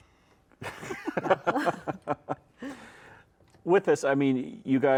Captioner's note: all laugh